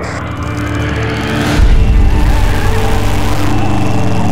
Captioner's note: engine rumbling